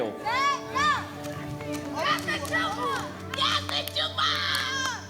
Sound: shouting incoherently

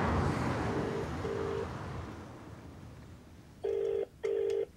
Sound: line rings

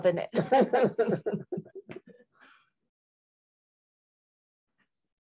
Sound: laughter

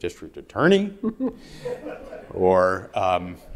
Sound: audience laughing

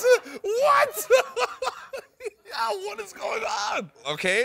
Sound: laughs

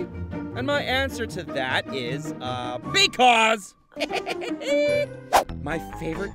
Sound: Percy laughing

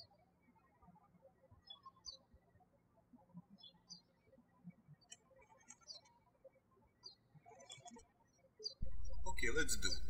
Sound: birds chirping

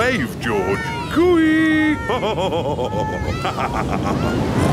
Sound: laughs

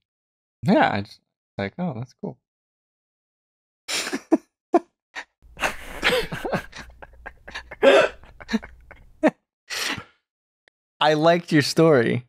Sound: laughter

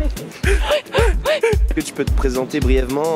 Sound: crying

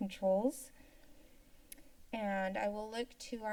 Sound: silence

